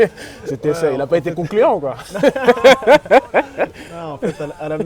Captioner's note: laughs